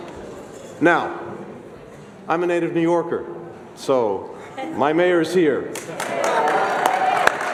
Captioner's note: applause